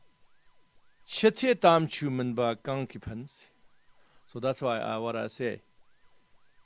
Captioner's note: tibetan